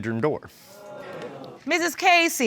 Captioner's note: audience exclaims